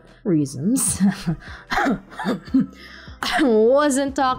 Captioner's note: smoking sound effect with coughing